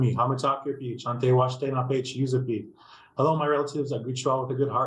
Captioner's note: speaking Native language